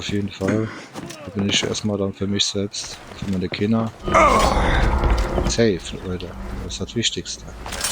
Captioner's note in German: stöhnen